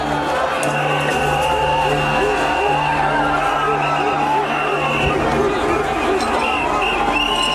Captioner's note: cheering